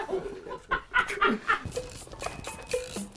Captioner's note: laughs